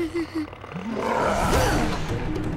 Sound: chuckles; growling

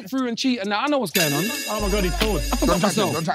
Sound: phone ringing

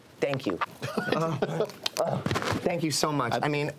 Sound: laughing

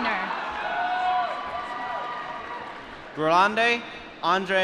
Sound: applause

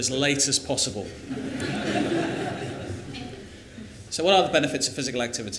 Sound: laughter

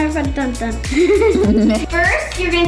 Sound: laughing

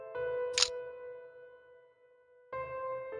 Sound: click sound

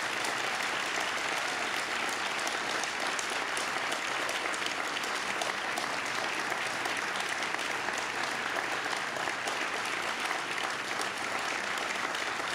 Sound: applause

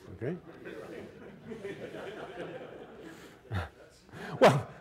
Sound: laughter

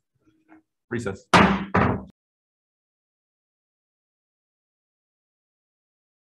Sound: gavel banging

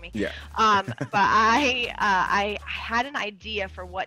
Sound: laugh

